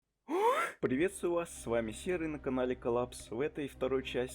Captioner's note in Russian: Вздохи удивления